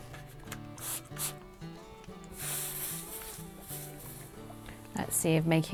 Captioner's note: iron sizzles; water sprays